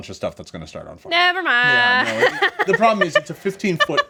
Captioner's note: laughs